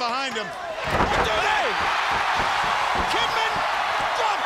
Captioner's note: crowd cheering